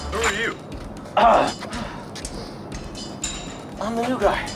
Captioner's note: clears throat